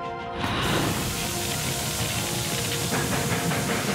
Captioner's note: <i> steam hissing, fire roaring